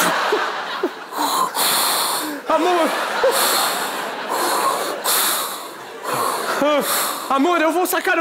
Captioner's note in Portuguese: respiração de Darth Vader